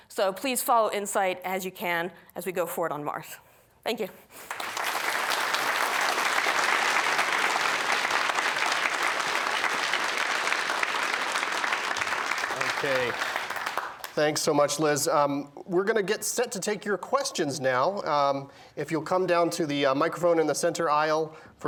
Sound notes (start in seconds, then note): 4.6 applause